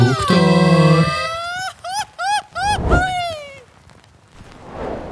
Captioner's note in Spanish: grito